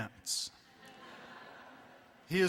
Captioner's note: laughter